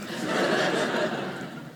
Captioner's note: audience laughing